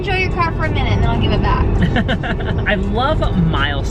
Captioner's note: laughs